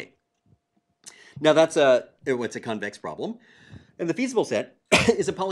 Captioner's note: cough